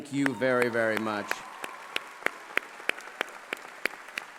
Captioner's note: cheering and applause